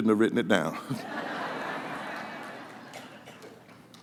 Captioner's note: laughter